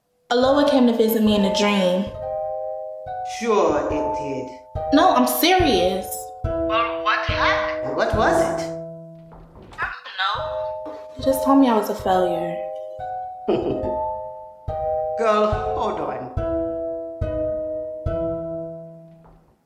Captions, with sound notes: A Loa came to visit me in a dream. Sure it did. No, I'm serious. Well what happened? What was it? I don't know. He just told me I was a failure. (laughs) Girl, hold on.